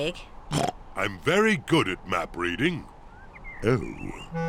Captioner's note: oinks